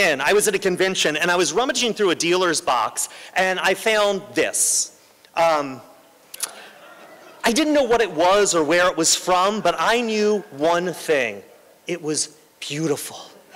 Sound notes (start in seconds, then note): 6.5 laughter